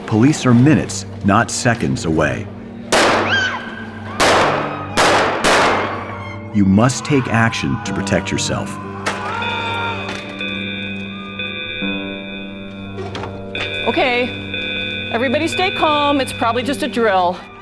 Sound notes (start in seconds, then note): 2.9 gunshots, screaming; 9.1 gunshots, emergency alarm sounds